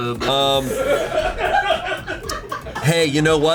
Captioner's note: colleagues laughing